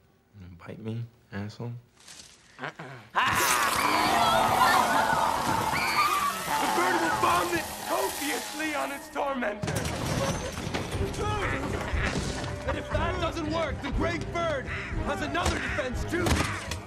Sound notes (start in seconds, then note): 3.1 all shrieking